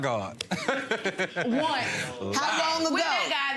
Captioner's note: laughs